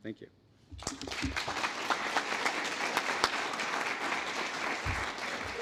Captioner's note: applause